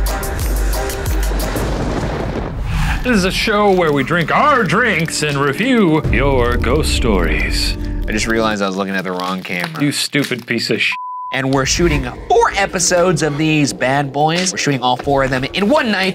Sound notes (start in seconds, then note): 10.9 beep